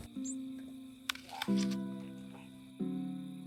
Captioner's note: crunches into apple